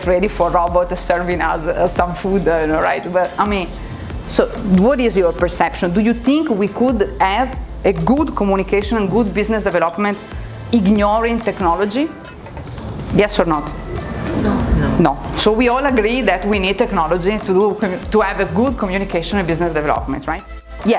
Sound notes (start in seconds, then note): 13.6 students answering